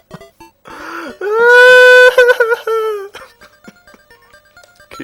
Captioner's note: cries